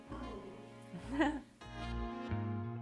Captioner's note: mouth sounds; giggle; goblin sounds; outro music